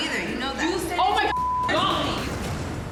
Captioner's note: beep